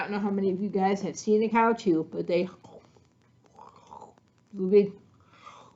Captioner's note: chewing sounds